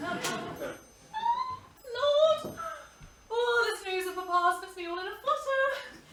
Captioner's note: squealing